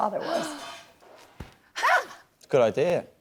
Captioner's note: laughs